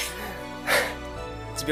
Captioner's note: exhales